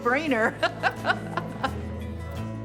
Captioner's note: laughing; gentle music